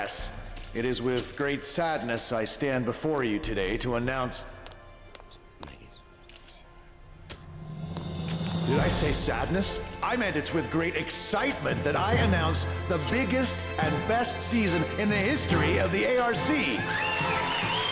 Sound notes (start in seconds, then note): 6.9 whispering